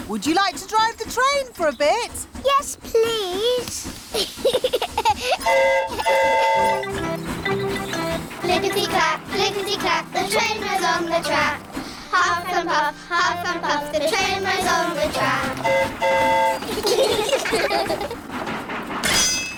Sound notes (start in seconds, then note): 4.1 giggles; 5.4 train horn toots; 15.2 train horn toots; 16.4 all giggle